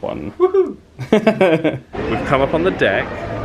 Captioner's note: laughs